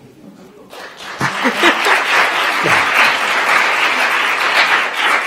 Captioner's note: attendees applauding